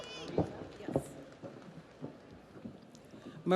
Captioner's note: audience applauds; audience cheers